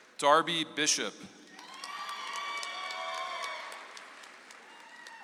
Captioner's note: audience applauds